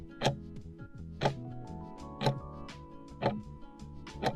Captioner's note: timer ticking